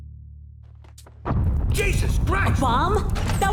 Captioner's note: a bomb explodes